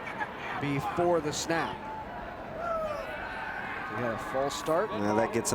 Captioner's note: spectators cheering